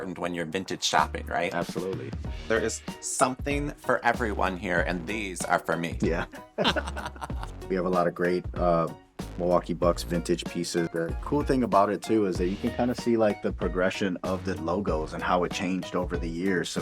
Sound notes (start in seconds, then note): 6.1 laughter